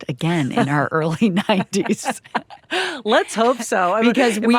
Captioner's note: both chuckling